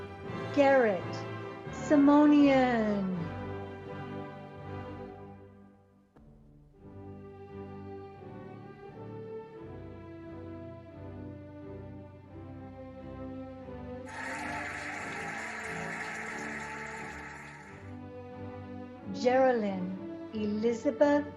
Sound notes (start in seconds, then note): 5.7 cheerful music; 14.0 cheering and applauding